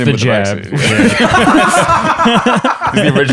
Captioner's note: laughter